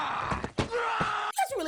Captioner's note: groaning